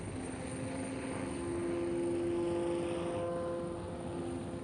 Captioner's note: boat horn blaring